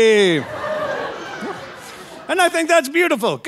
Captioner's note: audience laughing